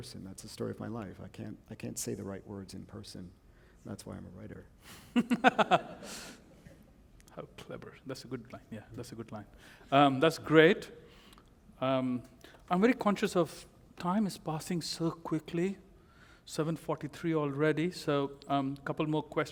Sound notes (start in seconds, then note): 5.0 laughter